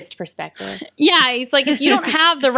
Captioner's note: laughs